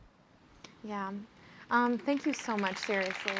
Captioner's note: applause